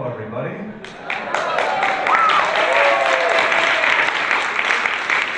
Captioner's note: audience applause